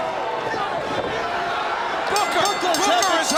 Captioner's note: bell ringing